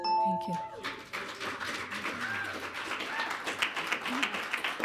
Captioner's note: audience clapping